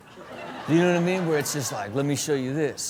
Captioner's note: crowd laughs